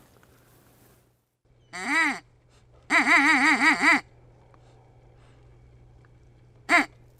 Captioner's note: sounds of a duck call